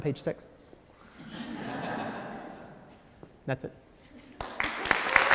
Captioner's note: audience laughs; applause